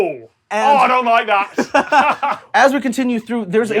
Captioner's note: both laughing